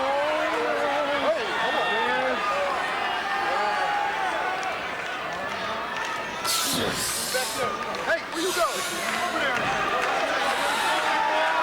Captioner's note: applause